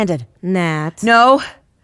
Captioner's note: scolding